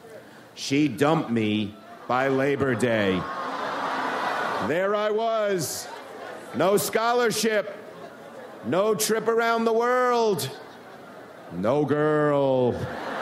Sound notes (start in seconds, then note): 2.1 audience laughs